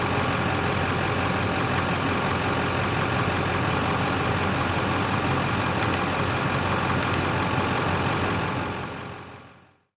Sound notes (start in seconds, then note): 5.8 keyboard clicks; 8.4 bell gently ringing